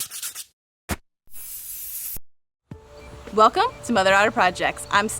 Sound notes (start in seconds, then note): 0.0 sand paper scratching; 1.3 spray paint hissing